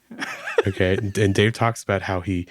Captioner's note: laughing